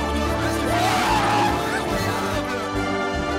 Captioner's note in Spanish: grito